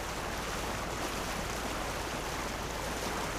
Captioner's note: water sounds